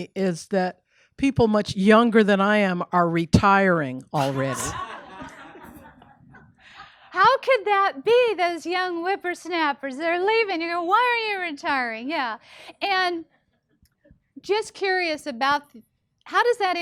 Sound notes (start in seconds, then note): 4.1 people laughing